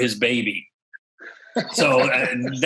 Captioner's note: laughs